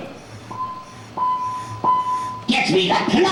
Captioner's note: beeps count down vo on speaker